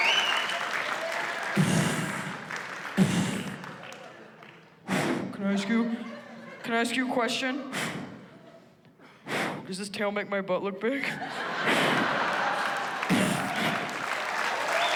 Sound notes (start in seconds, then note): 1.0 mimics thudding; 1.4 blows into microphone; 7.7 blows into microphone